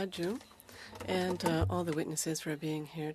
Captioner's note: speaking French